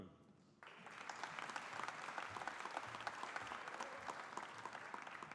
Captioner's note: audience applauding